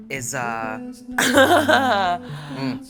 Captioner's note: nervous laugh